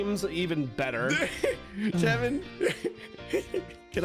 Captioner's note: excited gasp